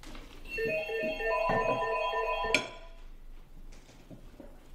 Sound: phone ringing

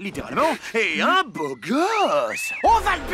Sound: whistling

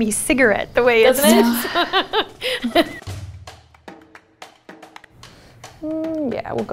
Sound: laughs

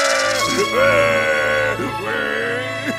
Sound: crying, rattling; crying

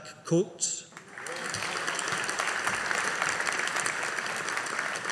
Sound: audience applauding

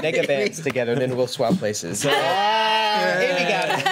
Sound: group groans

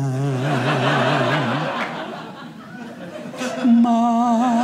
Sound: audience laughing

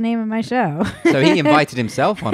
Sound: laughs loudly loudly

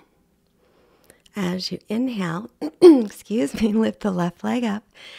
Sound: clears throat

